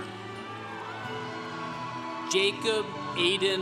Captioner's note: congregation cheering